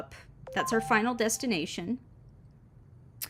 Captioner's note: phone notification